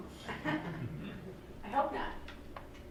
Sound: laughing

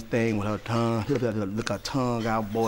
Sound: smacking tongue softly

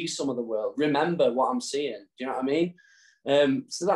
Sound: none

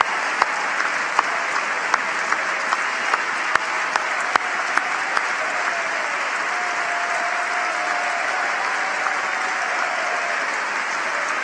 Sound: cheering and applause; cheers and applause; applause

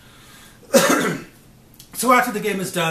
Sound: coughs

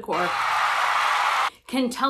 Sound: applause

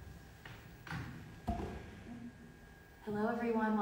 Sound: objects clattering

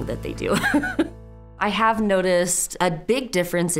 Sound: laughs

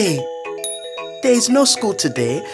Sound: bell rings

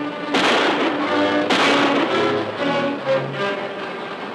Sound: guns firing

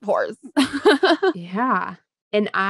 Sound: laughs

